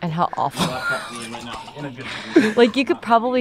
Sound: laughs

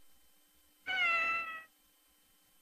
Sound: Mimsie mewing

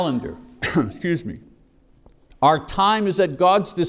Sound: coughs

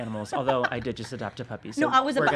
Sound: laughing

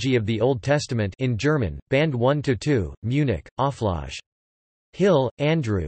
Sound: in German

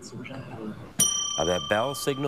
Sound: bell dings

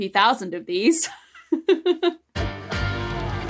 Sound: giggles

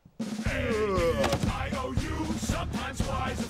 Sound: groans; chanting

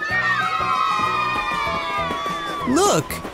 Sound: kids cheer

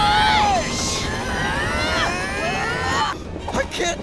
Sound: grunting

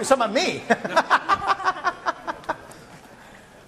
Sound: laughing

